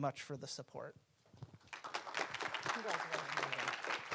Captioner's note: audience applauding